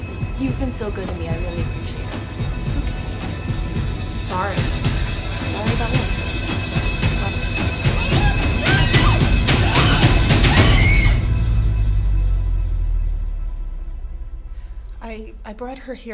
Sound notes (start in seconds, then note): 6.5 suspenseful music; 8.0 girl screaming